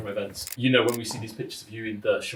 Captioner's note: camera clicks